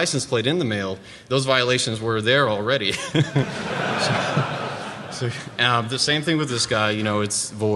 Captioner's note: laughter